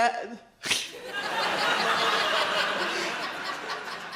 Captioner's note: audience laughs